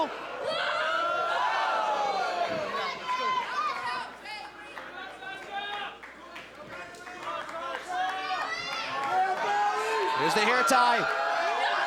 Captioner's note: crowd chatter